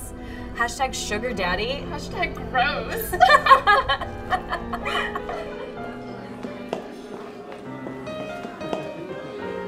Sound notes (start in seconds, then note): 3.0 laughs